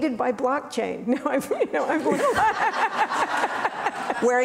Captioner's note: laughing